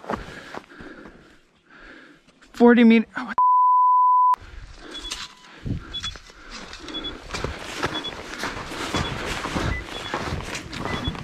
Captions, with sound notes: 40 mete, what the (beep) (radar beeping)